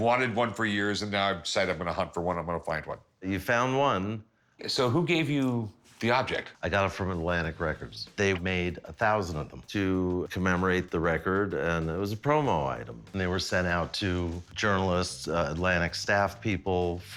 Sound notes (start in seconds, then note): none